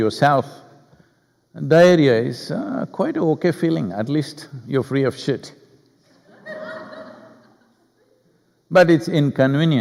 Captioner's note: laughter